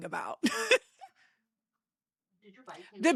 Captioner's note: laughing